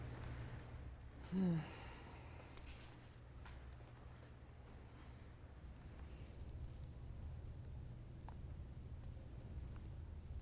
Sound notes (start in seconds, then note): 1.2 sigh